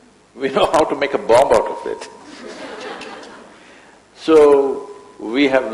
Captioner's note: laughter; laughs